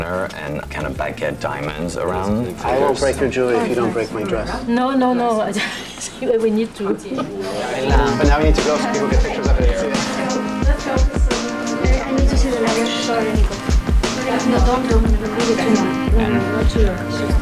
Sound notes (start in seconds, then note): 10.5 smooth music; 10.5 staffers chattering